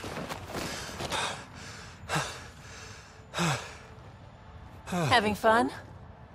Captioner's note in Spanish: Jadea pesadamente